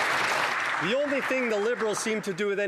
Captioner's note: some Applause